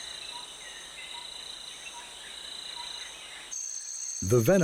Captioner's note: birds chirping